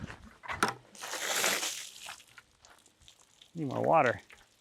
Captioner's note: water splashes